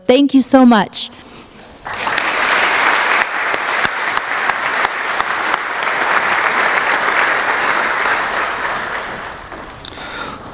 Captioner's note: applause